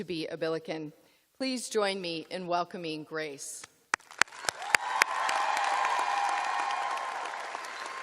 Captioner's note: cheers and applause